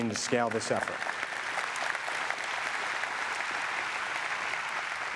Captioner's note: audience applause